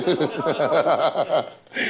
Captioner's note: laughter